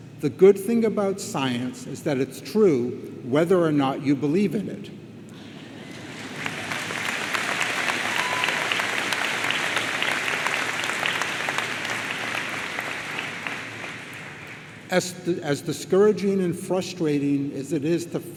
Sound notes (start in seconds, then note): 5.4 audience laughs; 5.8 audience applauds